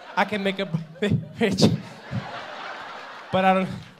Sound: audience laughing

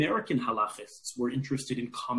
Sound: speaking in foreign language

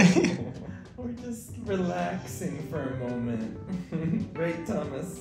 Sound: chuckles

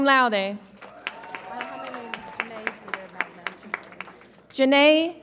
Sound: audience applauds and cheers

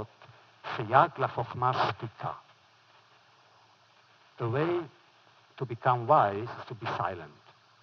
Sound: foreign language

